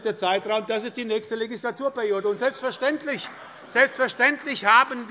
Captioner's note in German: Beifall bei Abgeordneten der SPD - Lachen bei der CDU